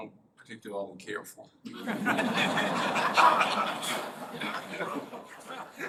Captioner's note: laughter